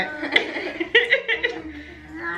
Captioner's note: everyone laughs